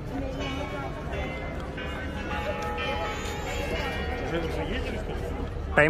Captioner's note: bell rings